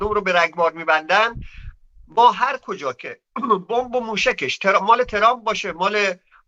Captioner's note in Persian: گلویش را صاف می‌کند